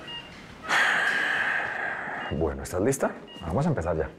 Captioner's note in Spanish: Suspiros